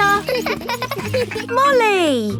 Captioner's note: laughing